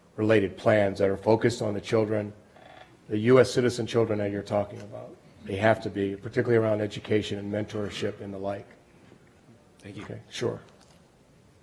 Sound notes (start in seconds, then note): 9.8 voiceover